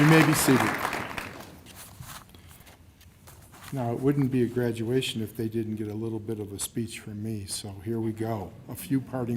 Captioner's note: cheers and applause